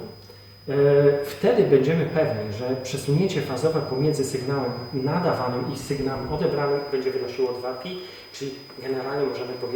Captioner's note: loudspeaker